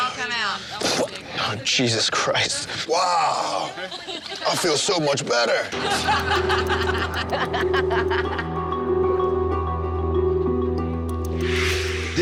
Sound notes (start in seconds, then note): 5.7 women laughing; 8.9 soft music